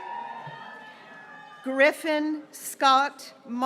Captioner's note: graduates cheering